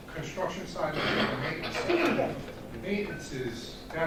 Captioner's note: clears throat